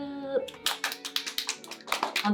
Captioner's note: clap clap clap